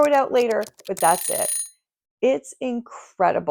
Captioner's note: alarm ringing